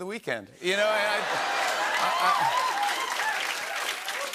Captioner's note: cheers and applause